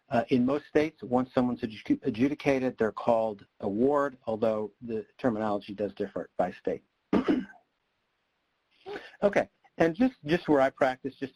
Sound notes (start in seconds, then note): 7.1 clears throat